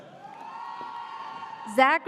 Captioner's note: audience cheers